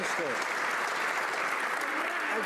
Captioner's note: some Applause